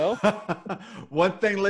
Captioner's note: laughs